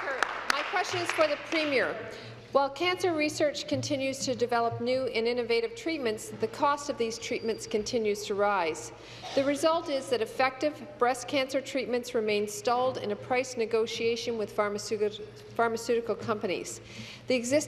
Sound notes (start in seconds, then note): 2.6 applause